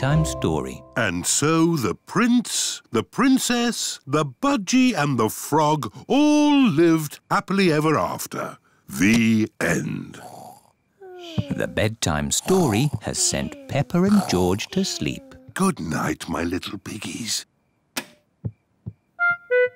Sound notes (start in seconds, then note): 10.0 both snore; 17.8 light switch clicks